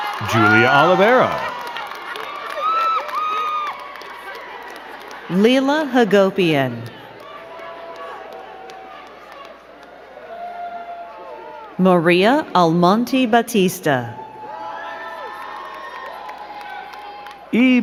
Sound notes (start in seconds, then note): 2.5 crowd cheering and clapping; 7.9 crowd cheering; 14.2 crowd cheering and clapping